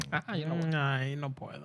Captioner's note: speaking In Foreign Language